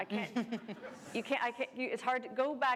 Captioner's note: laughter